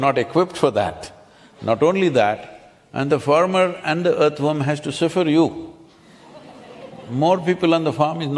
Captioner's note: few laugh